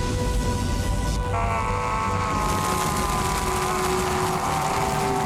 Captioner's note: screaming; zapping